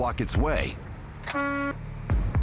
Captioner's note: horn honking